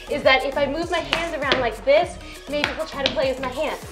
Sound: hand tapping

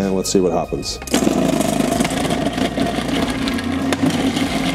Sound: blender rumbling

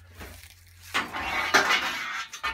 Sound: clunking of pipe

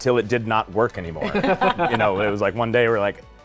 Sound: laughing

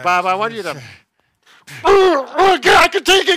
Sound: grunts

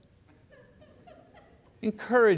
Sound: congregation laughs

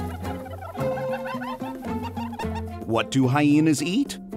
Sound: more laughing sounds

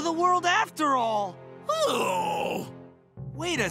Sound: groaning

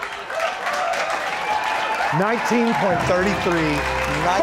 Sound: applause / Music; claps

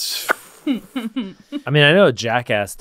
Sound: laughing

